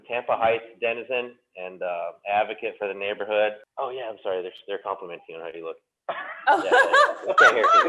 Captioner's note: laughter